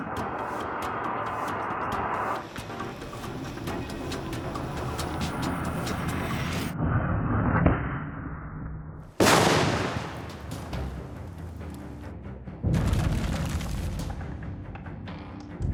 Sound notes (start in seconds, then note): 9.2 loud bang; 12.8 debris hitting the ground